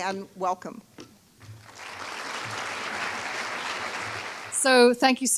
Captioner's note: applause